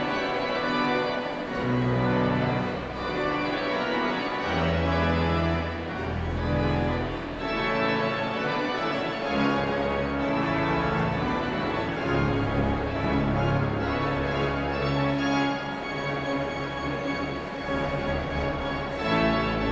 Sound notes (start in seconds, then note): 0.1 energetic organ music continues; 4.9 audience chattering continues; 15.0 energetic organ music continues; 19.4 audience chattering continues